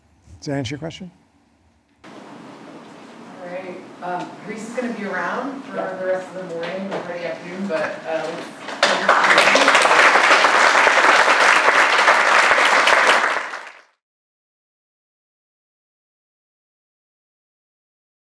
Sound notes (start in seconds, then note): 8.6 applause